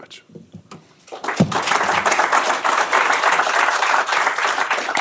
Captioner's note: applause